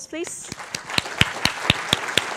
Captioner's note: applause